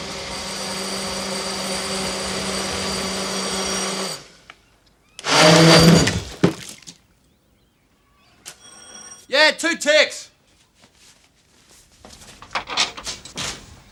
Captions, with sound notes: [Door bell rings] [Blender starts] [Door bell rings] YEAH, 2 TICKS!